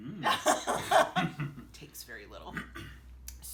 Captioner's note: both laughing